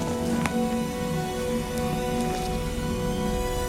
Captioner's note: shuffling